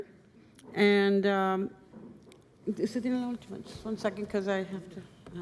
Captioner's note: speaking spanish